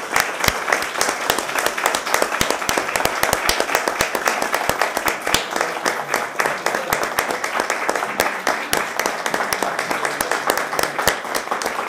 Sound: applause

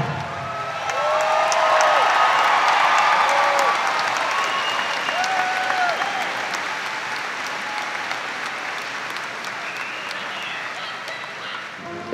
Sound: audience applauding

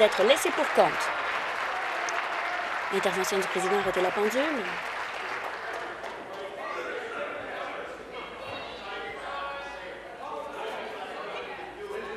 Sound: applause

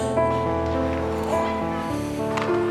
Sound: exhales

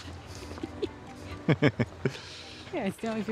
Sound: laughing

